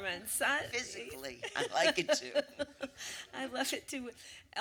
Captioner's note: laughs